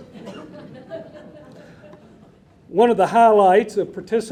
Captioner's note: audience laughing